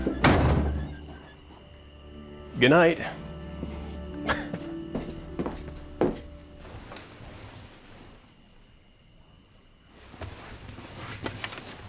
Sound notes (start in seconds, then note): 0.0 door slams; 4.2 laughs